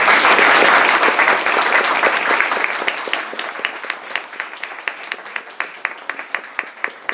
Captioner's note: applause